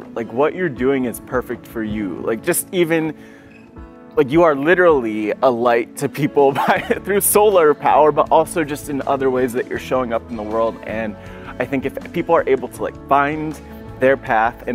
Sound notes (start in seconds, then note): 6.5 chuckles